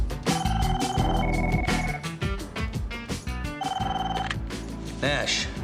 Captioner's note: phone ringing